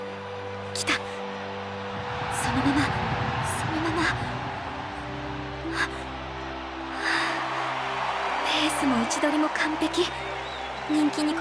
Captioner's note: sigh